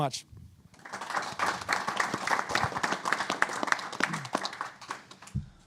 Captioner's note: applause